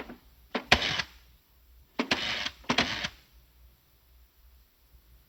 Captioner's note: phone dial cranking